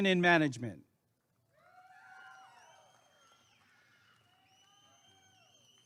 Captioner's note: applause and cheering